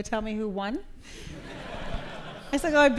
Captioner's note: laughter